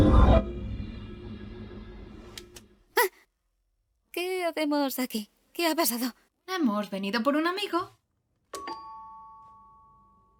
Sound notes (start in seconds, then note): 2.9 gasps; 8.6 doorbell rings